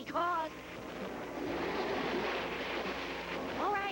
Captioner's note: wind